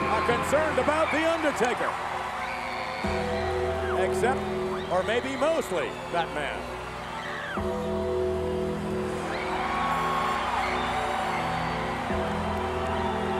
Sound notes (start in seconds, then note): 7.9 bell tolls; 7.9 eerie organ music; 10.2 audience cheering